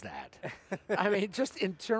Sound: laughing

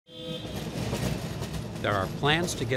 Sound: trolley horn blowing

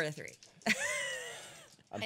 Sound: laughing

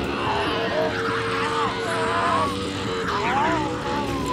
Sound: Riley shrieking

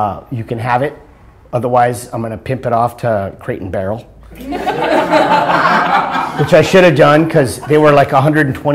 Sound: laughter

